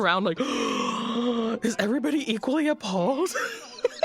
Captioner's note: laughs; gasps